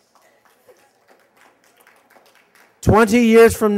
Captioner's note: applause